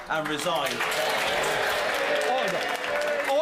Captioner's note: applause